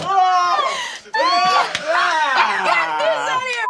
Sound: group laughing

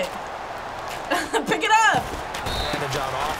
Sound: chuckles

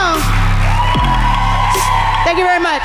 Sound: audience cheering loudly

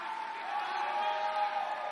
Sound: cheers and applause

